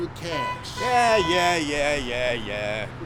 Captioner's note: car horn honking